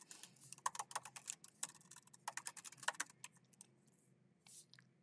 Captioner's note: keyboard clacking